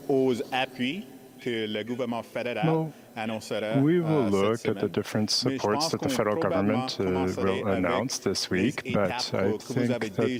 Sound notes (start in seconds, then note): 3.0 speaking in french